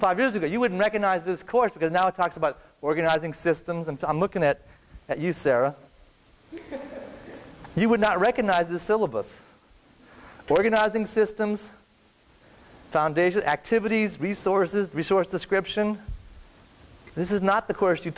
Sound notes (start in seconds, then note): 6.5 laughter